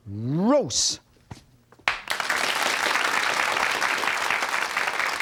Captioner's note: crowd applauds